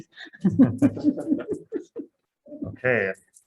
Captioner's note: laughing